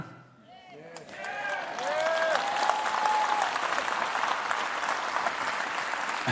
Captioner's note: cheering/Applause